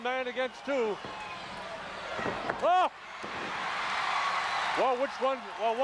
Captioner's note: applause